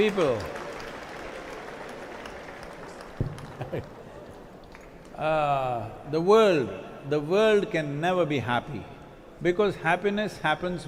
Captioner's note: cheering/Applause